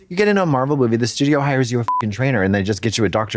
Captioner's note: beep